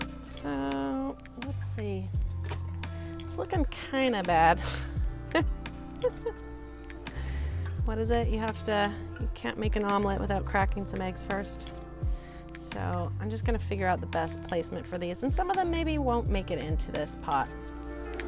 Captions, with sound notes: So let's see, it’s looking kinda bad (laughs) What is it? You have to you can't make an omelet without cracking some eggs first. So I'm just going to figure out the best placement for these. And some of them maybe won't make it into this pot.